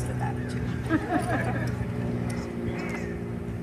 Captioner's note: laughter